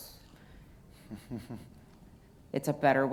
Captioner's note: chuckles